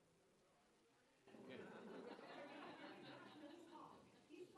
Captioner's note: chatter